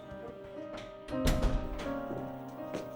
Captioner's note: soft piano music; door closes